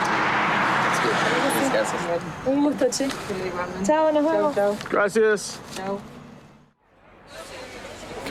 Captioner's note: speaking In Foreign Language